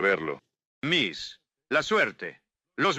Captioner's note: in spanish